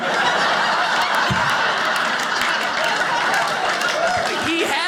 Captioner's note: audience laughing